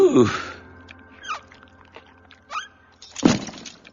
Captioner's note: squeaking; belt bangs